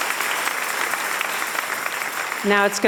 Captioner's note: applause and cheers